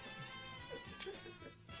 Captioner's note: shutter clicks